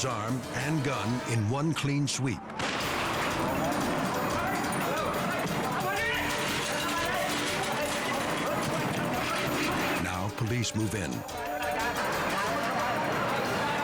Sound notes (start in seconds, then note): 2.6 shot fires; 3.8 police shouting in foreign language; 5.8 dramatic music continues; 11.2 police shouting in foreign language